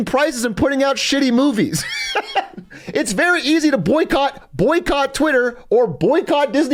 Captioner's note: laughs